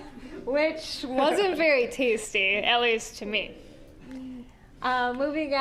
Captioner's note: all laughing